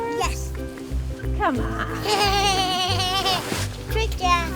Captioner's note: laughing